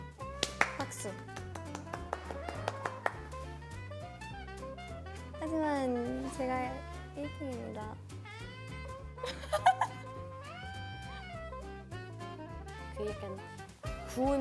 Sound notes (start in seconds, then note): 0.2 A big round of applause; 9.2 can't hold in her laughter